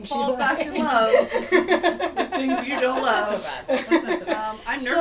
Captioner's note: laughter